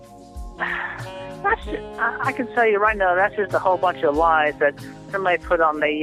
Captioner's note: sigh